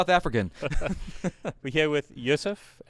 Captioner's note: laughs